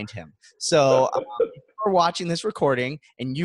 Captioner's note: laughs